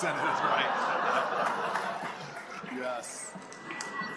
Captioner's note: laughter